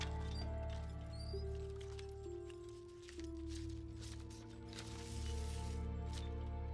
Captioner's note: film rustles; chandelier squeaks